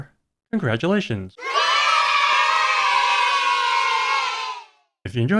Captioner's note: kids cheering